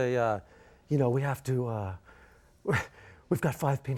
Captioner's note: laughs